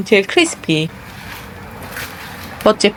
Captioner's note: cha-ra-rak